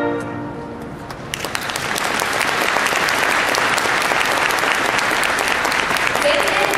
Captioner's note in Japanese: 拍手